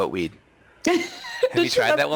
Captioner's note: laughs